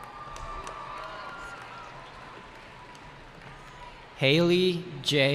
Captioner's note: cheering